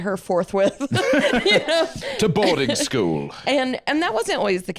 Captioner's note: laughs